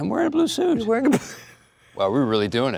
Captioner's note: laughs